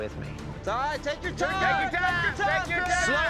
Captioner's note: cowboys shout encouragement